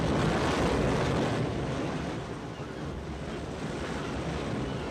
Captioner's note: seagulls cry